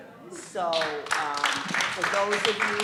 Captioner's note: applause